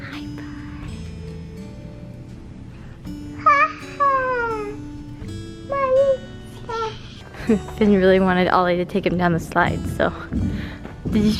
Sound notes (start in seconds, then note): 1.0 soft guitar music; 3.4 babbling